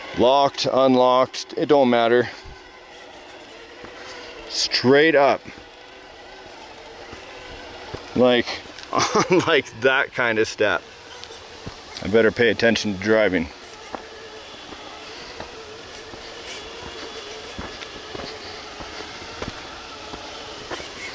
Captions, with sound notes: Locked, unlocked, it don't matter. Straight up. Like (chuckles), like that kind of step. I better pay attention to driving. (engine roaring)